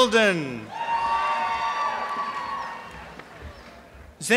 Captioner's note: applause and cheering